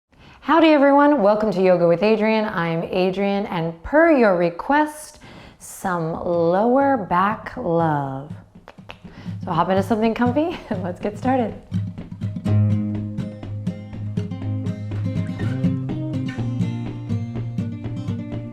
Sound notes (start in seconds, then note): 8.5 clicks tongue; 12.3 bright music